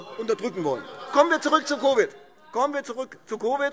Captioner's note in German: Anhaltende lebhafte Zurufe - Glockenzeichen